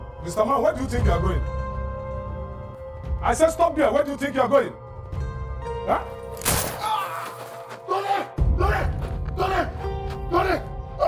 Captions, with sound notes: - Mr. Man, where do you think you're going? I said stop there. Where do you think you're going? (gunshot fired) (Tony screaming) - Tony! Tony! Tony!